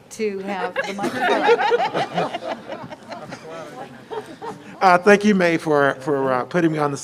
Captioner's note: laughter